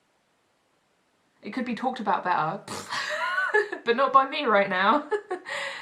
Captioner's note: laughs